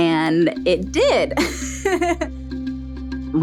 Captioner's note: laughs